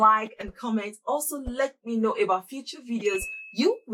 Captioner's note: bell rings